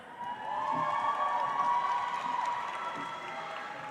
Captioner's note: audience applauds